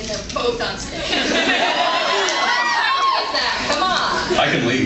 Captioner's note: laughing